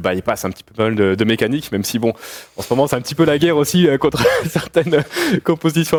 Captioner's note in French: rires